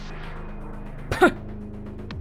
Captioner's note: chuckles